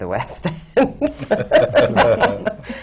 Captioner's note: laughs